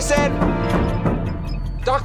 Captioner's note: hand banging on door